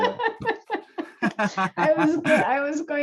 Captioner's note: laughter